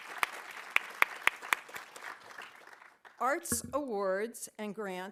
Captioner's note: audience applauding